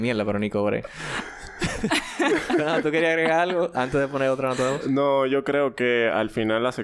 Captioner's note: laughs